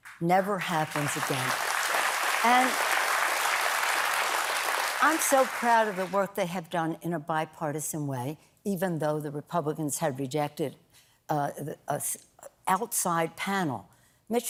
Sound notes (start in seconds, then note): 0.0 applause